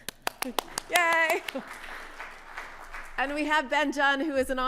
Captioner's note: audience clapping